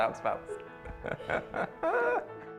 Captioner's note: laughs